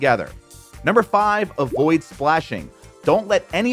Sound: graphics popping

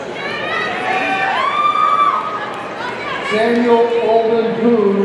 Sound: audience cheering

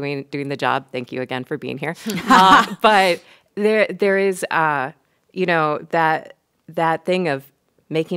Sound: laughs

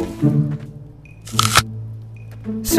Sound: bite

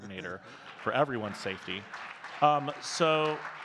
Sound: audience clapping

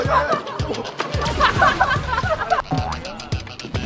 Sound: burst into laughter

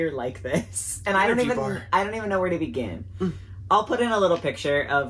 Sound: moans

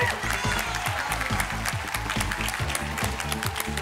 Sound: cheers and applause; energetic music

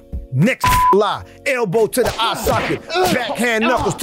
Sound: beep

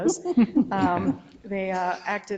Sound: members laugh

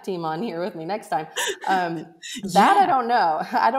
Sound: laughing

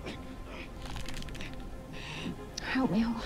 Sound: bow creaks

